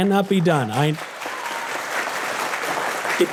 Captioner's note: audience applause